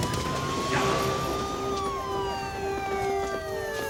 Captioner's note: Jeff mutters; siren wailing